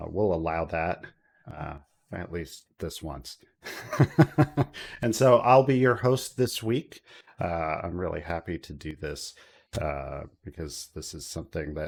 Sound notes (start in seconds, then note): 3.7 laughs